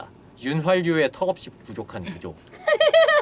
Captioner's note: laughter